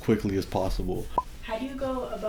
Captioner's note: bubble popping